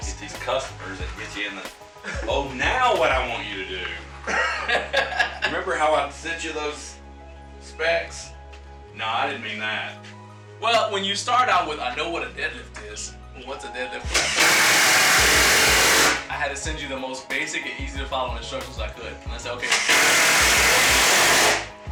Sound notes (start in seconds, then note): 4.2 chuckles; 14.0 drill whirring; 19.6 drill whirring